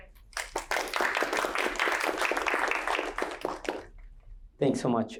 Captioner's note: applause